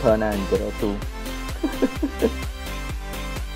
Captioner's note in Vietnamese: Cười tự an ủi